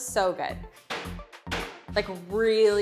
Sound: hammer slams

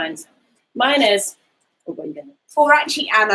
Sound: speaks quietly

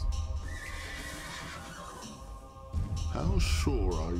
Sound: horse neighing

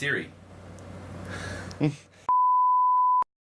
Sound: laughing

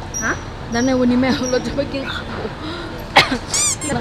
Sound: coughing

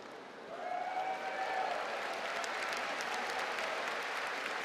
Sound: cheering and applause

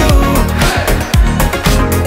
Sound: crowd

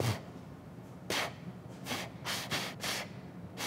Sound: puffs

